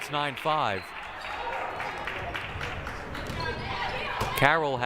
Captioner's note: crowd clapping